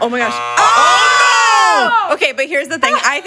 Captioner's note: timer buzzing